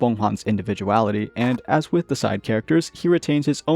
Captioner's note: scrape